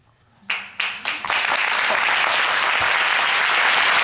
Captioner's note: audience applauding